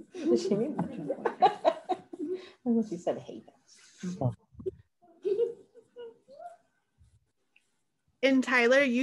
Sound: laughter

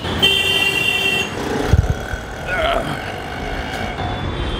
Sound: loud honking

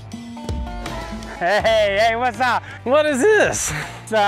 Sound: laughs

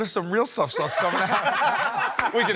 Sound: laughter

